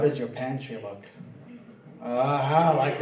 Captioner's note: laughing